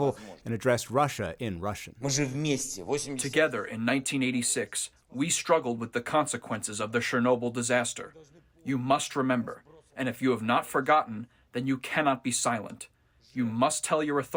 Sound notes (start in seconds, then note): 3.4 through translator